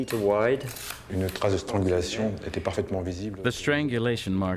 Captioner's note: speaks in foreign language